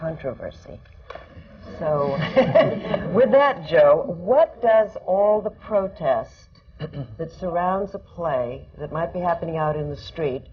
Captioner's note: laughter